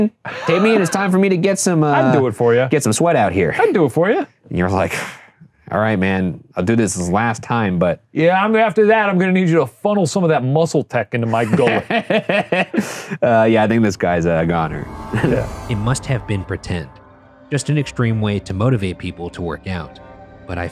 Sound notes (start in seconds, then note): 11.2 laughing; 15.3 laughing